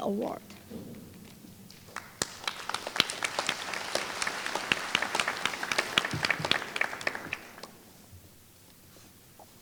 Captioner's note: applause